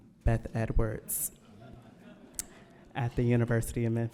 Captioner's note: audience laughing